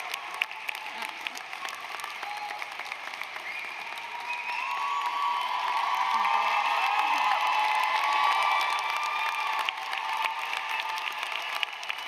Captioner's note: applause; cheers